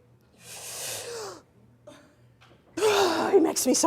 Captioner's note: takes a deep breath